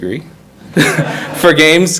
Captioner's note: all laugh